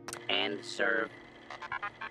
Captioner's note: robot speaking-And serve